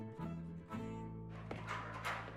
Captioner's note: metal clacking